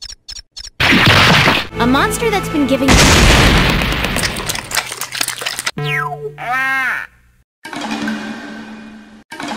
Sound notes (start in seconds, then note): 3.7 pit a pat pit a pat; 4.3 om nom nom nom